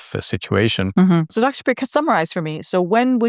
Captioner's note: hums